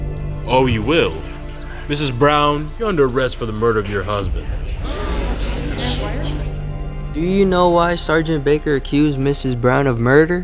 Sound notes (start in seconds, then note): 4.7 party gasping and whispering gets louder